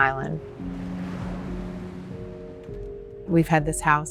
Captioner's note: waves lapping